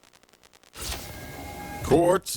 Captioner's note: door opening